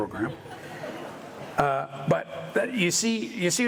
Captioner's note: audience laughter in hangar